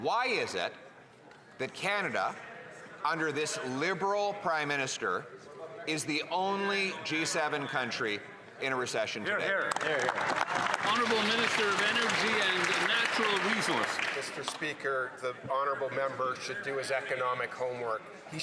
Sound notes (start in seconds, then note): 14.3 some Applause